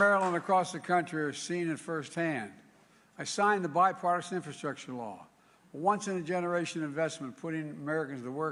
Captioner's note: applause